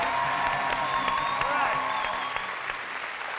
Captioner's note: cheers and applause